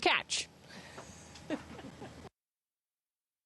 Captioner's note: laughing